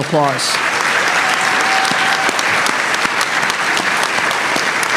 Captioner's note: applause